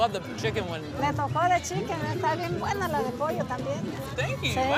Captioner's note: speaking in foreign language